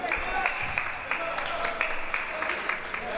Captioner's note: clapping